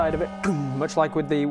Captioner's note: gong